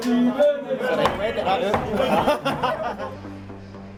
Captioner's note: laughs; intense music